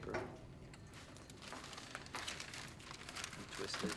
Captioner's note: paper crinkling